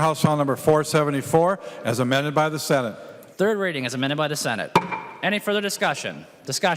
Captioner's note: gavel